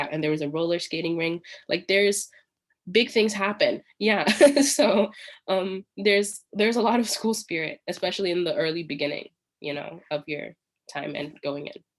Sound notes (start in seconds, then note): 4.4 laughs